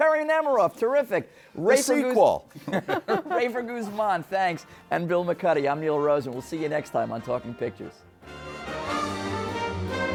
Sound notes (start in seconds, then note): 2.6 laughing